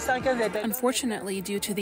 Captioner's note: through translator